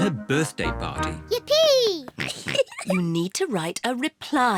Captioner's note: giggles